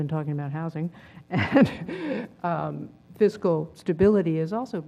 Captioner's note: laugh